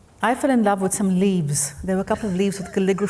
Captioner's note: laughing